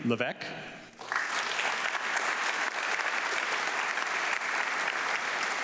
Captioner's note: audience clapping